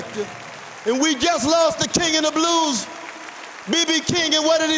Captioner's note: applause